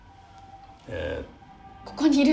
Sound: stammers

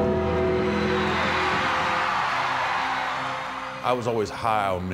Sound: crowd cheering

